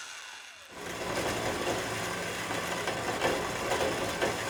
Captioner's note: metal grinding